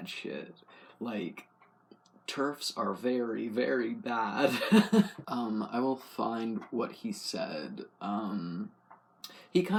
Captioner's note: laugh